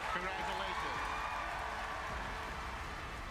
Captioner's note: cheers